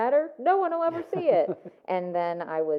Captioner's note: laughs